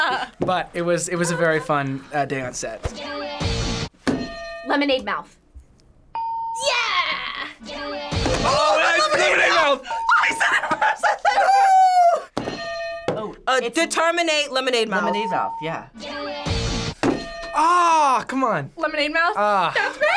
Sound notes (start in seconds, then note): 4.2 bell rings; 12.5 bells ring; 17.1 bell rings